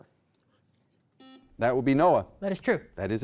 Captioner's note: buzzer beeps